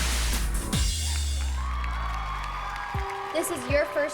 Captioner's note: applause, cheering